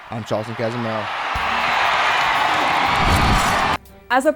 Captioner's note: loud cheering